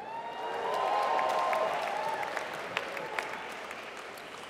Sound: applause

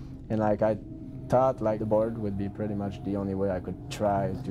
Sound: voiceover

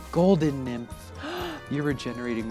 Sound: gasps

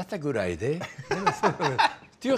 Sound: Ming laughs

